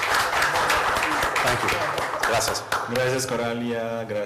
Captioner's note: applause